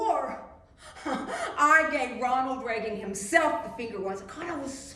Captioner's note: laughs